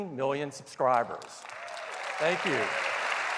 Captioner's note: applause